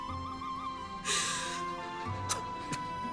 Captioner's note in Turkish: Ağlıyor